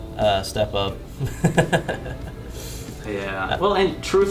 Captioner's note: laughing